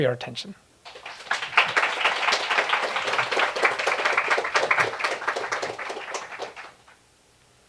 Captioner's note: applause